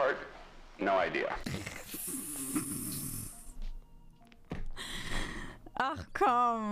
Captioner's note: laugh